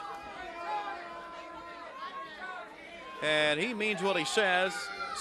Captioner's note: crowd chatter